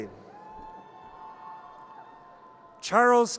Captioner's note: audience cheers